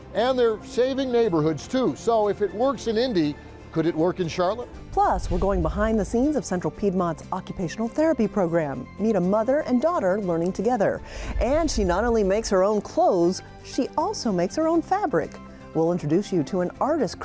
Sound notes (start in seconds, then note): 11.0 air whooshes